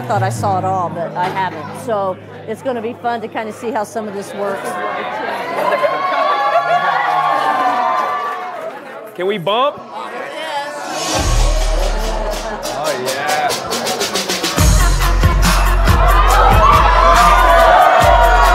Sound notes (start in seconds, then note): 4.6 cheering; 5.2 laughing; 10.8 energetic fun music; 11.6 people cheering